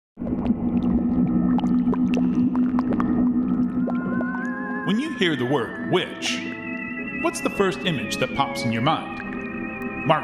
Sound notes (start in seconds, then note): 0.2 water gurgling; 0.4 eerie music